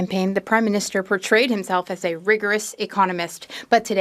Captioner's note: speaking French